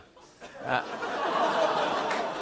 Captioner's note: laughter; audience groans